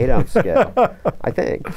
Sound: laughter

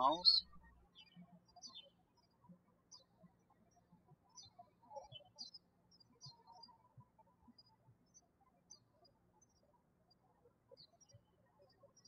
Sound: birds chirping

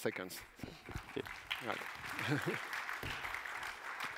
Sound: applause

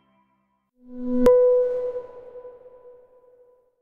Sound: soft ding

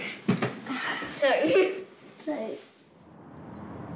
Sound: chuckles

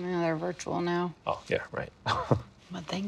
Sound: chuckles

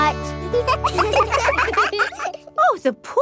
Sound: children laugh

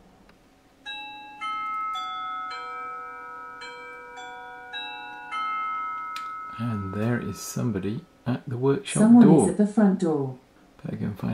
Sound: workshop Door Bell Sounds

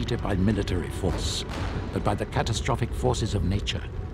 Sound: explosion booms

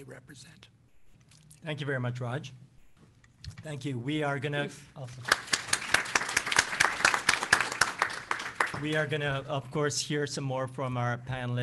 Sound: applause

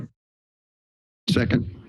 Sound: silence

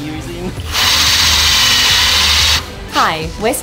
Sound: drill whirs

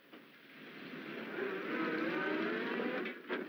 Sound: bus pulls away

